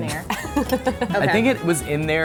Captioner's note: laughter